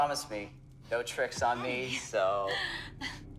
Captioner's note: laughs